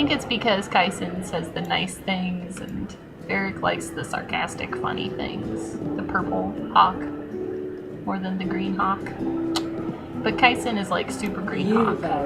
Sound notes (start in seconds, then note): none